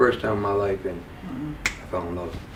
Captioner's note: finger snap